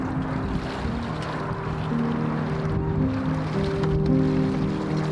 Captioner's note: water splashing; gentle piano music